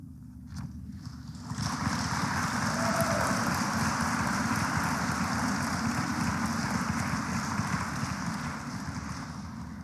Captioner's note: applause